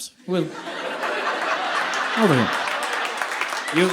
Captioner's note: audience laughing